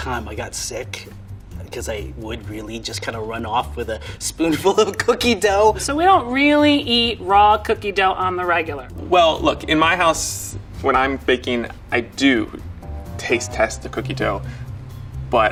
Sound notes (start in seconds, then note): none